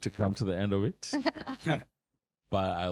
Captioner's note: laughing